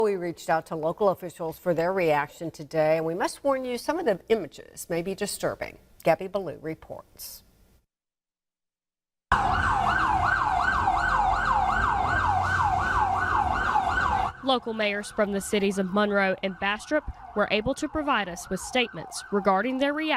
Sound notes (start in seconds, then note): 12.5 nat pop of sirens